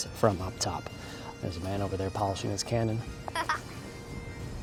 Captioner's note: giggles